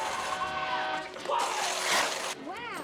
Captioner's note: horn honking